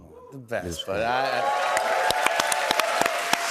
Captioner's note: cheers and applause